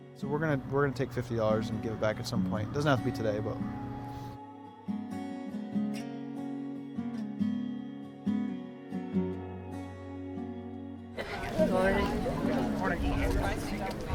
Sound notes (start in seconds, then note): 5.2 quiet guitar music continues; 11.1 crowd murmuring